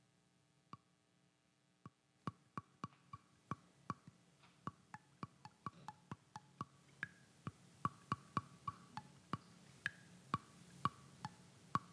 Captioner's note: tapping on flute